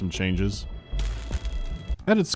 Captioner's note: bzzt